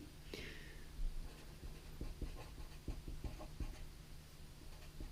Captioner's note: pen scratching